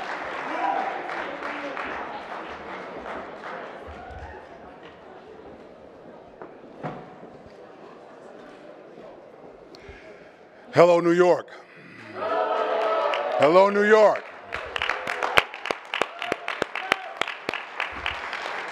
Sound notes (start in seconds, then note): 14.6 audience clapping